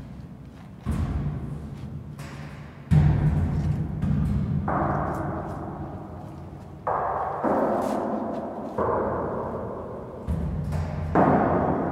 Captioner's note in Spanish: golpes en bronce